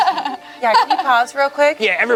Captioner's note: laughs